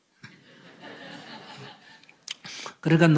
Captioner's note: /Audience Laughter